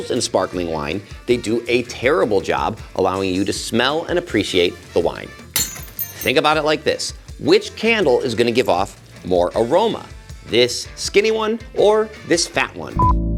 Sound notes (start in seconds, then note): 5.5 glass shatters